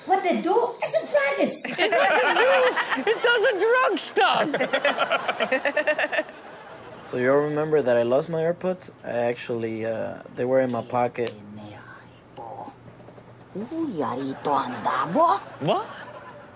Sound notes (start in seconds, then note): 4.2 audience laughs; 11.4 woman speaks foreign language